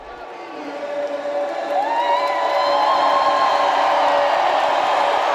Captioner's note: crowd applauding